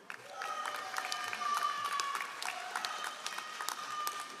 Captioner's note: all applauding